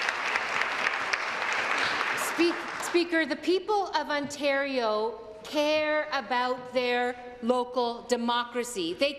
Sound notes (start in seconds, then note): 0.0 applause